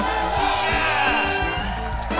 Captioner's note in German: Jubel